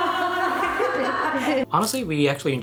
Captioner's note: laughing